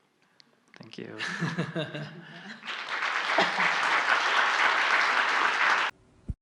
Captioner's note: laughter/Audience Applause